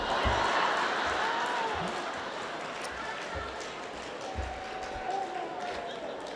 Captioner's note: laughter